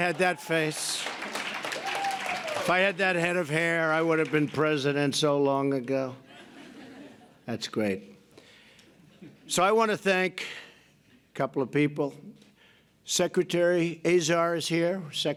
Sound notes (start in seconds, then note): 6.2 laughter